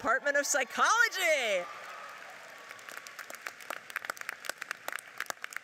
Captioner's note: audience cheers and applauds